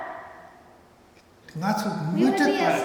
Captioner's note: speaking tibetan